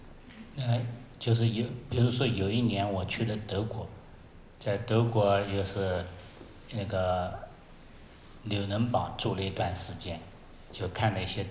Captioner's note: Mandarin